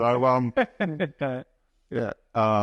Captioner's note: laughs